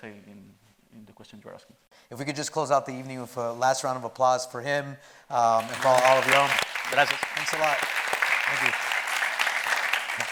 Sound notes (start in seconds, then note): 5.6 audience applauding